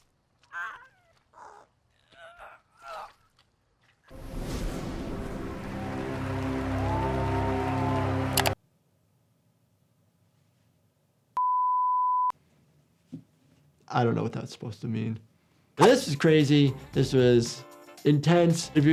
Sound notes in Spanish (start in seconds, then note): 0.5 Elisabeth gimiendo; 4.8 el público vitorea y aplaude; 11.4 pitidos de tono